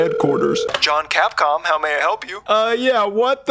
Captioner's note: phone call voice